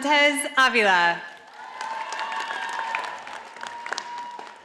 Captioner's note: audience applauding